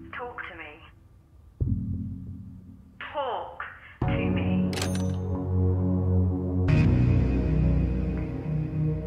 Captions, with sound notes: Talk to me. Talk to me- (Phone rattles shut)